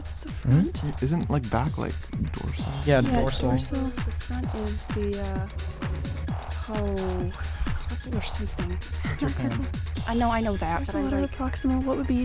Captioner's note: wispering